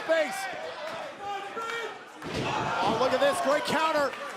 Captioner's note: crowd chatter